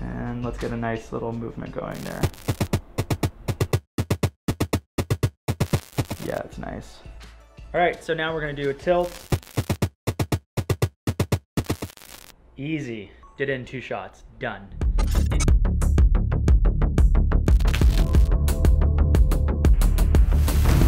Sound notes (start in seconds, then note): 1.8 upbeat drum music; 1.9 static crackling; 9.4 static crackling; 9.4 upbeat drum music; 14.8 intense music; 17.5 static crackling